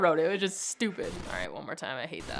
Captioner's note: screen hissing